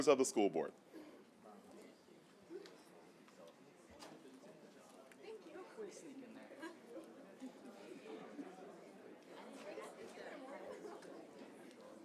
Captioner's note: group chatter